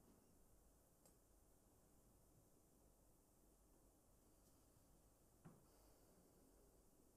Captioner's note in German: none